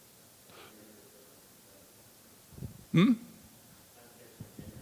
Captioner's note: audience member speaking off-mic